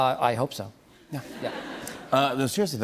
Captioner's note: laughter